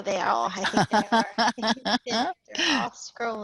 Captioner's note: laughter